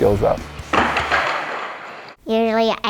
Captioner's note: skateboard cracks